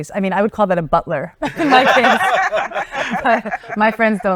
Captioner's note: laughing